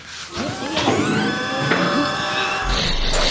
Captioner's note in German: Surrende Geräusche, Krachen